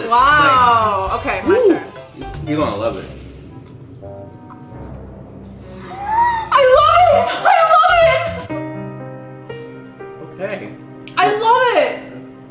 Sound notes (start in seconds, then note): 3.4 playful music; 5.6 gasps; 8.6 emotional piano music